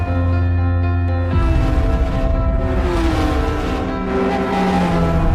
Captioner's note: vehicles engines roaring